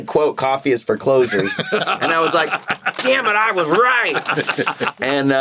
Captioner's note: laughs